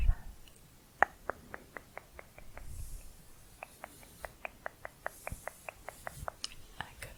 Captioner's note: quick tongue clicking